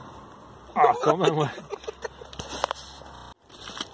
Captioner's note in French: rire